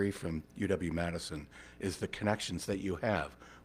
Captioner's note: none